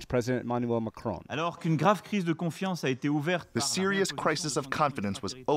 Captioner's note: through translator